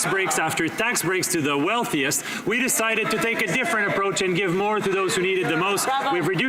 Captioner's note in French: voix de l'interprète